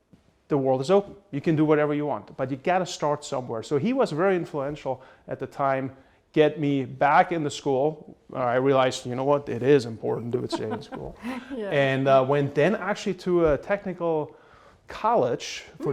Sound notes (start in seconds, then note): 10.1 laughs